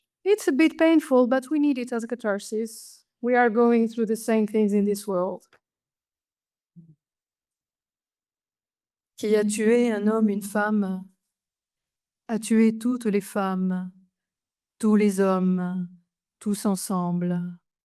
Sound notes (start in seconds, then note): 9.5 speaks French